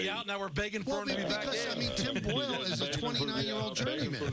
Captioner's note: laughter